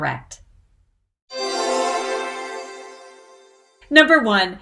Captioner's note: bells jingling